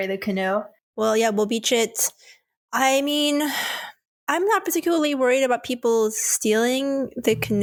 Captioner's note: exhales